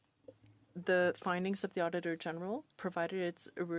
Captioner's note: speaking French